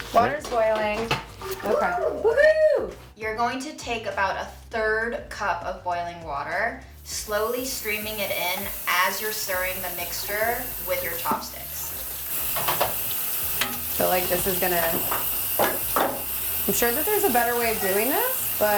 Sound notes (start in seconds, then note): 2.5 woos; 12.3 water running